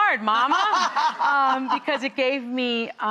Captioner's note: laughing